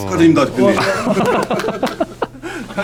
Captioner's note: claps